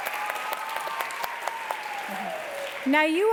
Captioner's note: applause